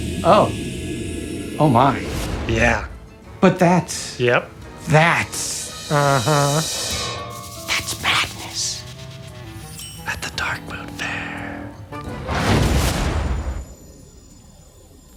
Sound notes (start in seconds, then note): 7.6 whispers